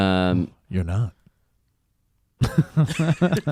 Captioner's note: laughs